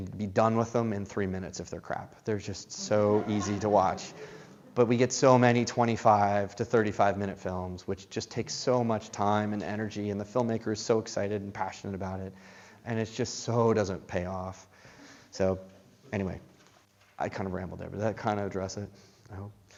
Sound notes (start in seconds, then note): 2.8 laughter